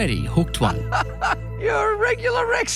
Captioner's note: laughing